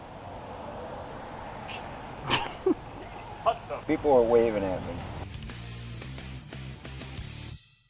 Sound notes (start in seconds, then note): 2.2 snickering; 5.3 upbeat rock music